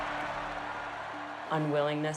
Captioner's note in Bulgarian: Аплодисменти